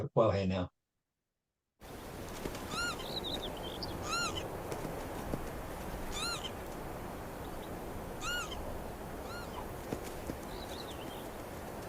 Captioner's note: Lapwing call